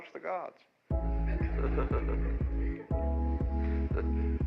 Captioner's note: audience laughing; upbeat music